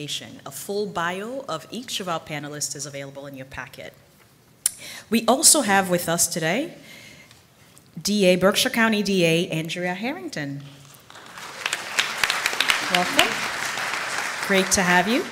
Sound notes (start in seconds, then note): 10.8 applause